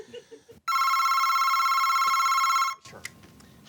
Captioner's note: phone rings